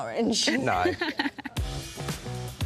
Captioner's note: vibrant music; laughter